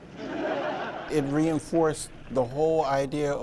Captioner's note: audience laughs